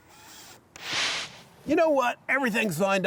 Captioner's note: screen whooshing